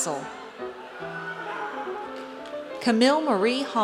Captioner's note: audience cheers